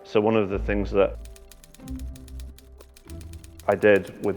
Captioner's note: typing sound